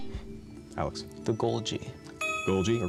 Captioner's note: buzzer